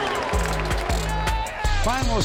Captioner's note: screaming